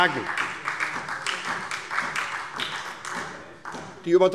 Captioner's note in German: Beifall SPD